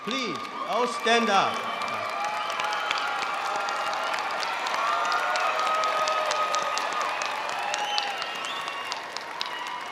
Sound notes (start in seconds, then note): 1.7 audience cheering